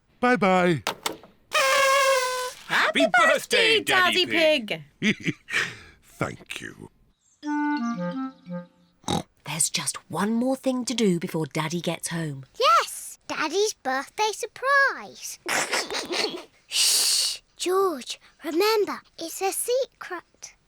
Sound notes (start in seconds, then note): 1.5 kazoos trumpet; 5.0 chuckles; 9.0 oinks; 15.4 giggles